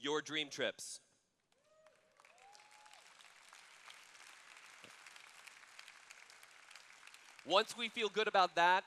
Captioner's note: applause